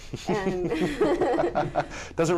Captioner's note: laughter